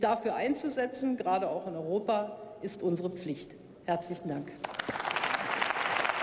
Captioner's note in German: Beifall bei der CDU/CSU und der SPD